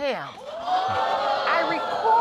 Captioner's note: audience exclaiming